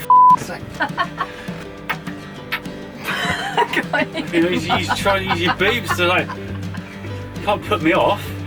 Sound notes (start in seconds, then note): 0.7 laughs